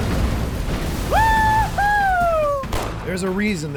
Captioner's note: explosion; fires gunshots